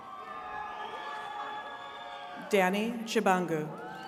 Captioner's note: attendees cheering